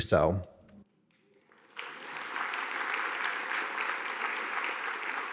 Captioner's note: audience applauding